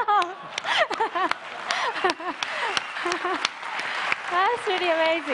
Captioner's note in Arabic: تصفيق